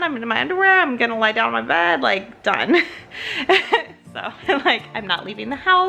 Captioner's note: laughs